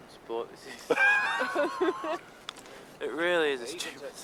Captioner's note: laughs